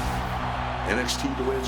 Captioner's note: crowd cheering